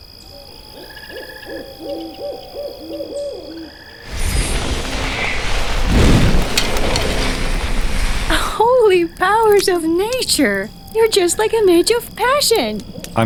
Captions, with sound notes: (crickets chirp) (flames crackle and rumble) - Holy Powers of Nature! You're just like a Mage of Passion!